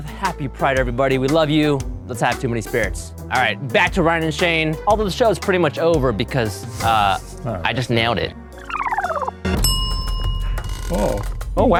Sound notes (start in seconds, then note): 8.6 film rewinds; 9.5 bell dings